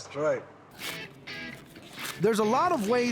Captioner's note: shucking corn